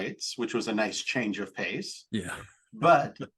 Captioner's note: chuckle